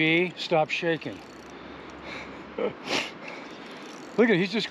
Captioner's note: chuckling